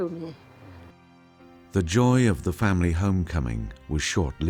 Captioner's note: voiceover